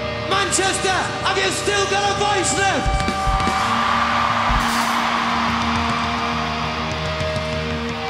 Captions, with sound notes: - Manchester, have you still got a voice left? (audience screams)